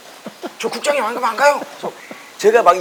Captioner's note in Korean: 웃음